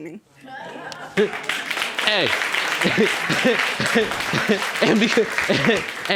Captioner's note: laughs; audience applauding